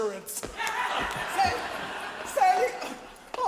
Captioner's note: audience laughs